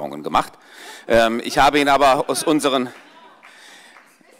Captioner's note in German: Vereinzelt Heiterkeit und Beifall